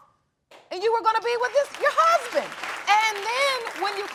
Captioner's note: audience applauding